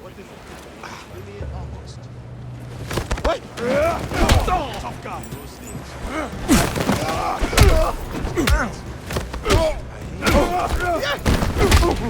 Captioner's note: groaning